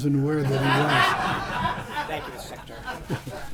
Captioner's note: laughter